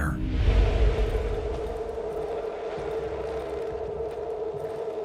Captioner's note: radio static crackling